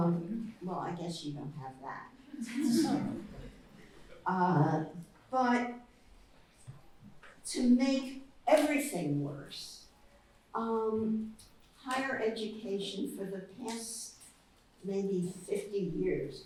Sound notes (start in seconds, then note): 2.3 laughter